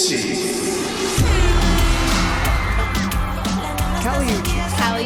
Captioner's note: announcer in Spanish